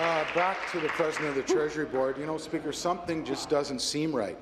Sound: applause

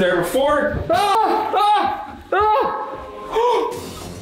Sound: screams

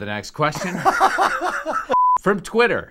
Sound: laughs; test card beeps

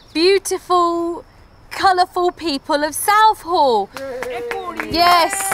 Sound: man cheers, clapping

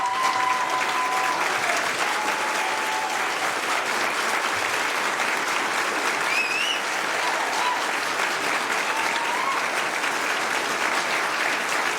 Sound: applause

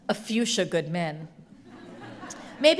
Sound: audience laughs

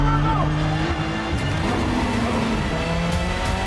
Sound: engine revving; intense music

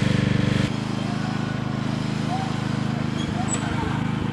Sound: fearful screaming

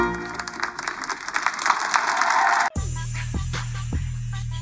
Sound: applause

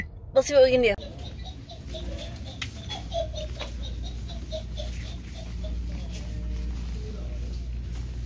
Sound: witchy laugh

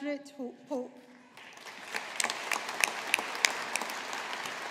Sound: audience applauding

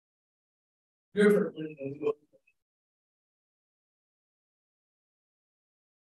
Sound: speaking faintly

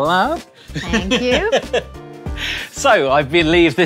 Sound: laughs

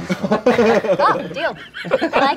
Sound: laughing

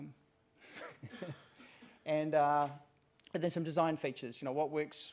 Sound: laugh

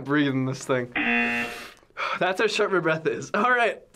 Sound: wheezing for air

